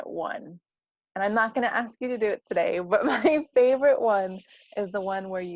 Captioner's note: laugh